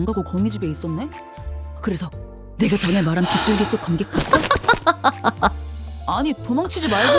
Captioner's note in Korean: 웃음